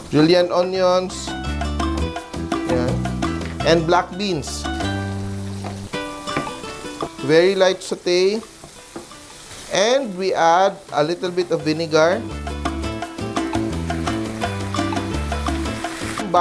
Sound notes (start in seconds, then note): 0.1 sizzles; 5.2 sizzles; 8.4 sizzles